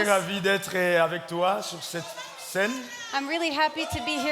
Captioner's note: speaking in French